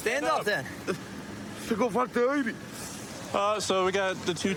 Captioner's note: speaking spanish